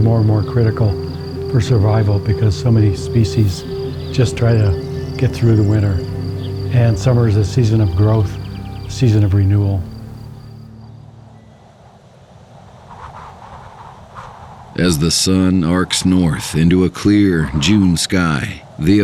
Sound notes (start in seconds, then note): 11.8 wind howling